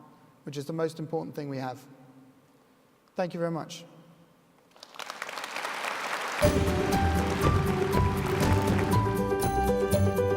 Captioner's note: applause